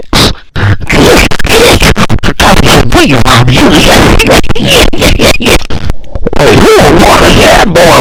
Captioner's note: laughter